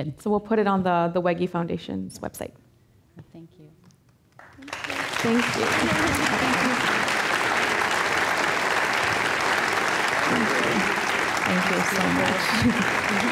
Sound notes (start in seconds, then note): 4.3 applause